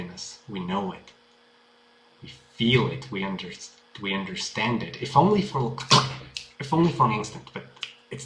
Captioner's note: snap